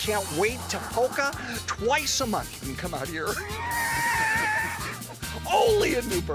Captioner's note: chuckles